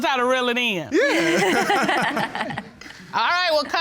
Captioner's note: laughing